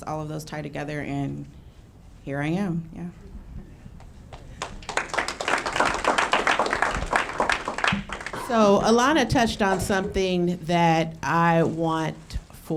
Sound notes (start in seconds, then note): 4.3 audience clapping